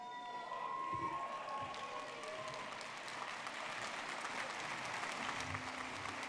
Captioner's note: audience clapping and cheering